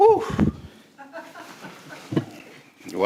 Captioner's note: others laughing